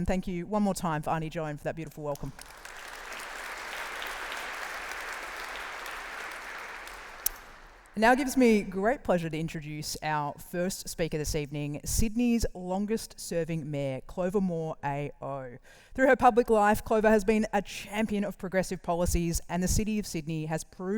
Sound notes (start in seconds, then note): 2.2 round of applause